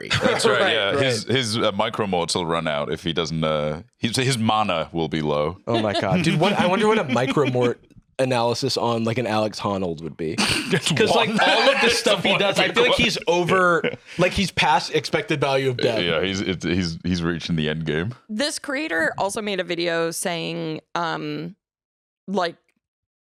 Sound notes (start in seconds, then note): 10.3 laughs